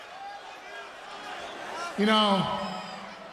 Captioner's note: crowd murmuring